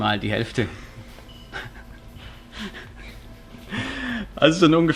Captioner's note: laughs